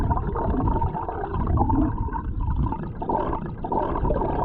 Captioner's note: gurgling water